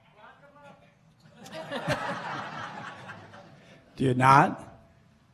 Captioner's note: laughing